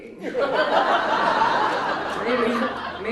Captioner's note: audience laughs